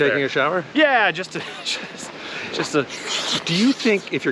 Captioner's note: sniffing noises